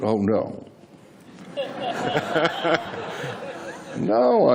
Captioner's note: laughter